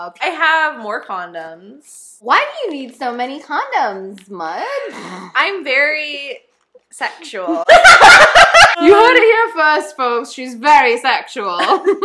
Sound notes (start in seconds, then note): 7.6 both erupt into laughter; 8.5 normal accent